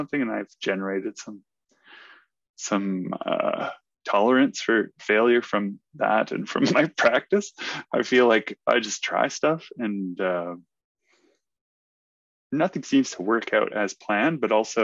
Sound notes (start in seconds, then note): 6.6 laughs